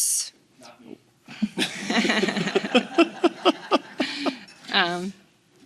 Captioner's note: all laughing